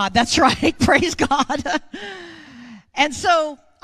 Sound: laughs

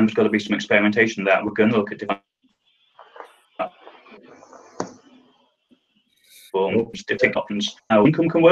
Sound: sound cuts out

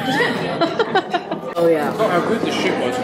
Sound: laughing

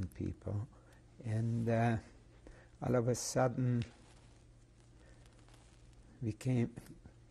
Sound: pauses for 3 seconds

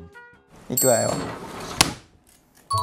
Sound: thump

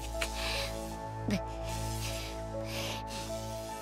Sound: Pikachu continues panting

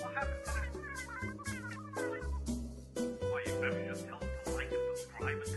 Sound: arguing

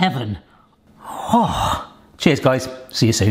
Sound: sighing

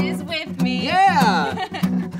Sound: laughs

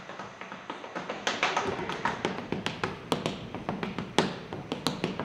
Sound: tapping

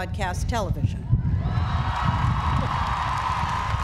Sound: cheering

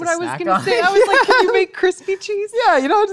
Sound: laughs

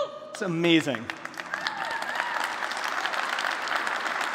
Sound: applause

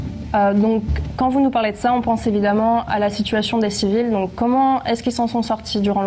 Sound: speaks in a foreign language

